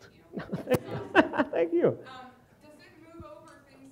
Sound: laughs

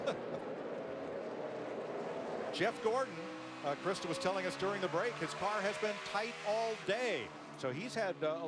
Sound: laughter

